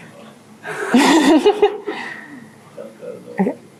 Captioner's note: laughter